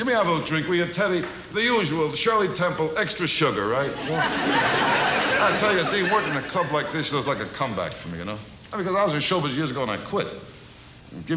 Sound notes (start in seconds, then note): 3.8 audience laughs